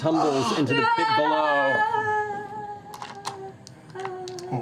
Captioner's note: fading scream